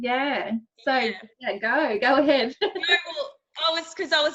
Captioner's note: laughs